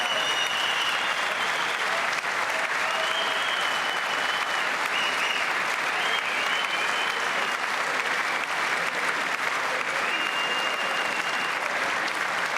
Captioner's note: cheers and applause